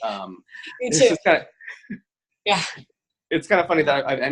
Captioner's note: both laugh